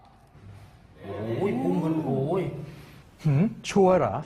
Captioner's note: exclamation